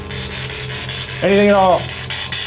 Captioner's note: spirit Box crackles